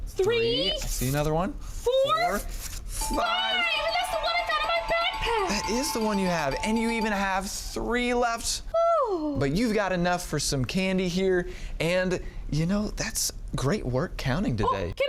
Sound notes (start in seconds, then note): 3.0 bell ringing